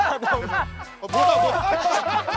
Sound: bursts into tears

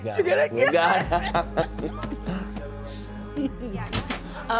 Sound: both laugh

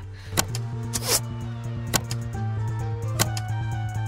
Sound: arrows zip through the air

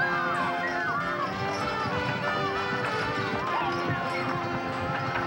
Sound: crowd shouting

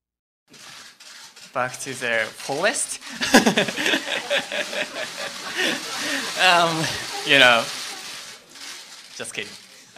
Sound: laughter

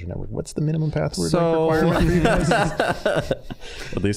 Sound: all laughing

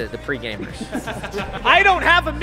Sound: laughter

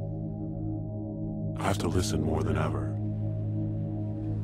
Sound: low Voice

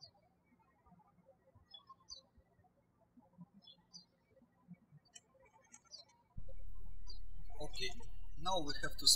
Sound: birds chirping

